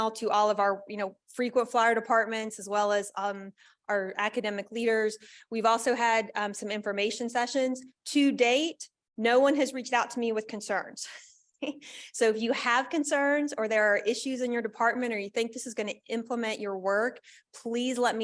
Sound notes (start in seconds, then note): 11.6 laughter